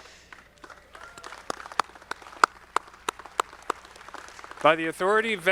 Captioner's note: audience clapping